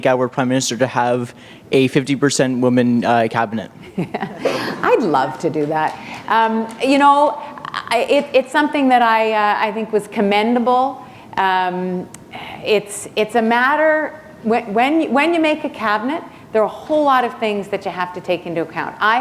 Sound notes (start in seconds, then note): 4.0 chuckle